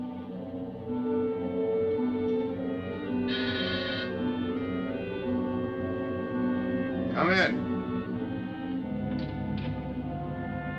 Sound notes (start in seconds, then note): 3.3 doorbell buzzing